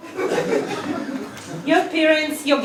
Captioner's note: laugh